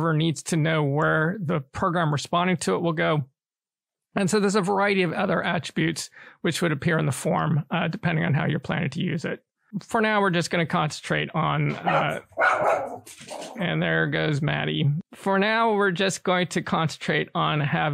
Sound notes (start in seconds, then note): 11.8 dog barks